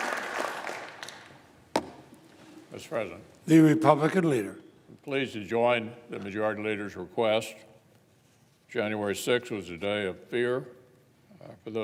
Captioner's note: applause